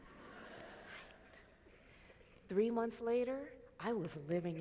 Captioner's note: crowd laughing